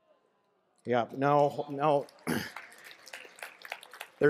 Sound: applause

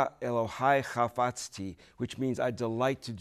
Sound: speaking Hebrew

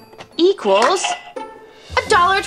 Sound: register clicks and rings

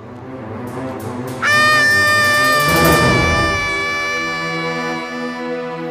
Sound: screaming

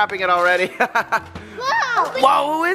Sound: laughs

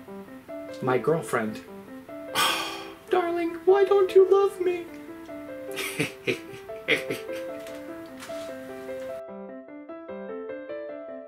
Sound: laughs

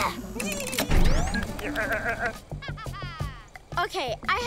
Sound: chuckles; evil laugh

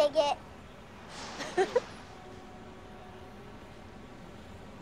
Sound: chuckles

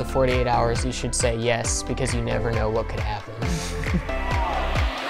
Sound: chuckles

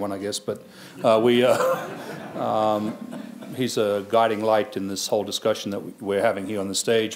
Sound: laughs

